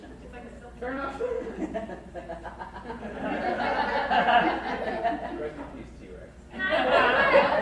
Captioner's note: crowd laughs harder